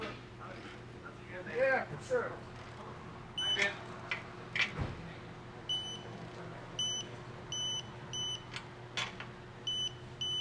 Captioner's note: beeping